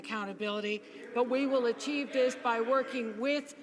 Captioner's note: some Applause